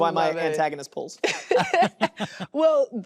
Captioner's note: laughter